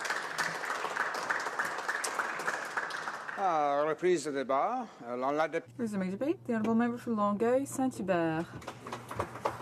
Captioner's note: applause